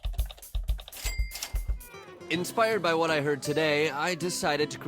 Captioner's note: clicking and dinging